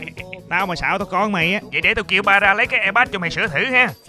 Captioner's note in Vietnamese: heheh